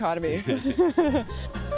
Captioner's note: laughter